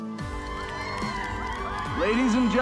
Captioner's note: crowd cheering; uplifting music